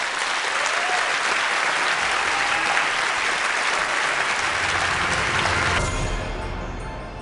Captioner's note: applause